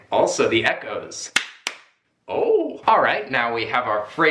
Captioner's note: hand clapping